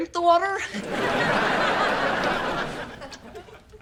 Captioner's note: audience laughter